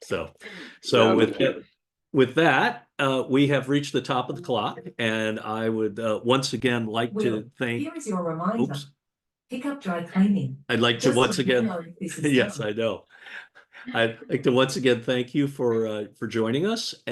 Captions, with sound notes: So with that, we have reached the top of the clock and I would once again like to thank. - [Robotic Voice] Will, here is your reminder. - Oops. - [Robotic Voice] Pick up dry cleaning. - I'd like to once again. Yes, I know. I'd like to once again thank you for joining us,